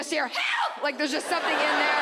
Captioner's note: audience laughs